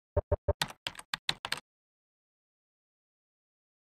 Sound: keyboard clicking

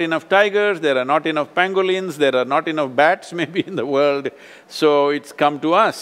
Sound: laughs

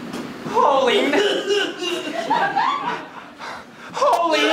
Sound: coughing

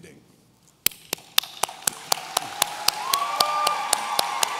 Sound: audience cheering

